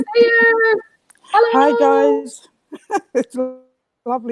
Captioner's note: chuckles